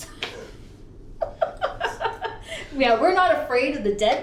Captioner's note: laughs